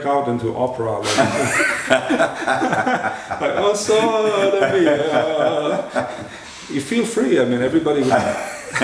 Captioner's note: laughter